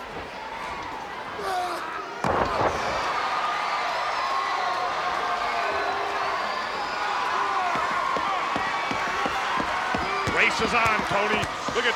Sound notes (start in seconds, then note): 3.3 crowd cheering